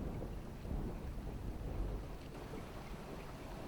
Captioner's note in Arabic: يلوح الرعد